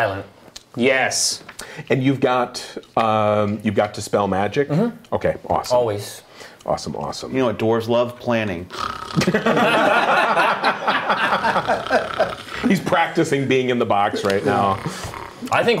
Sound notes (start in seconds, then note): 8.7 snoring; 9.1 laughing